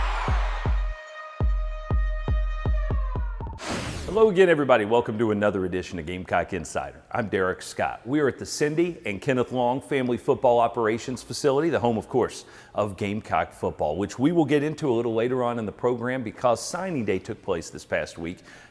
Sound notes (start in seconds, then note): 0.0 crowd cheering; 1.7 siren